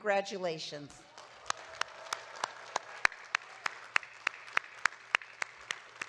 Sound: audience cheering and clapping

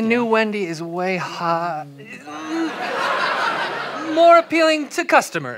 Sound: cautioning noises

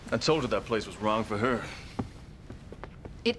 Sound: none

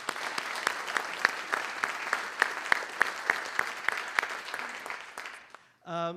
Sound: applause

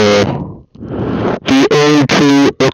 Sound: inhales

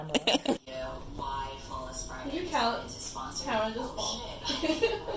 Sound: laughs

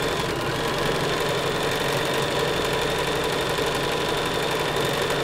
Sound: sewing machine loudly whirring

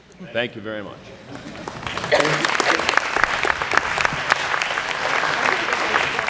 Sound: applause

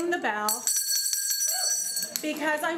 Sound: bell ringing

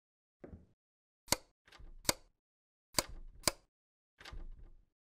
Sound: light switch

